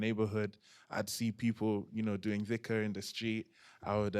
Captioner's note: non-english